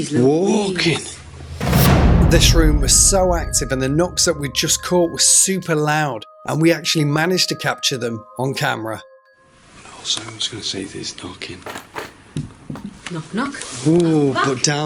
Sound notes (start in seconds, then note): 12.6 soft knocks